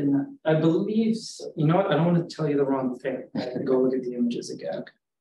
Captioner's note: audience member chuckles